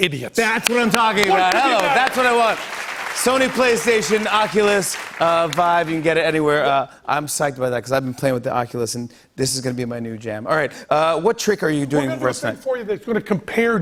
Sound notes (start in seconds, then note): 0.6 applause